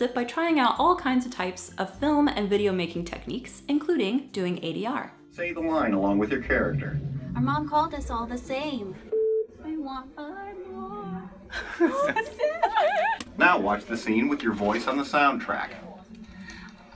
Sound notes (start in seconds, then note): 5.4 computer Generated Voice; 9.0 beeping; 11.3 laughing; 13.6 computer Generated Voice